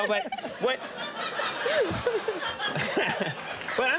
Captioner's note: both laughing